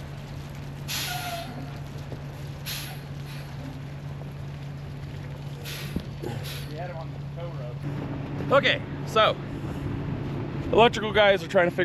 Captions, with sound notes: (truck screeches) - We had him on the tow rope. Okay, so, electrical guys are trying